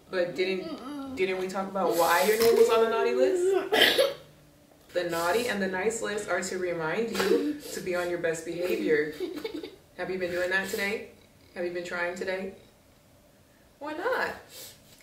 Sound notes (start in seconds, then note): 3.4 child coughing